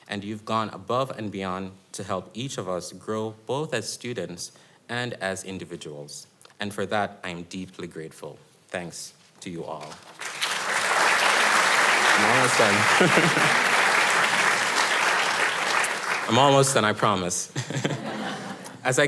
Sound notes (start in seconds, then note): 9.8 audience applauding